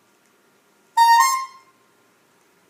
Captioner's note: bulb horn